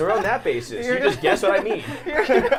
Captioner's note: laughs; laughing